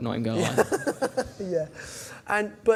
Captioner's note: laughs